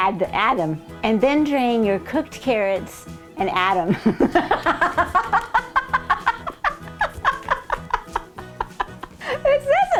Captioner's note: laughing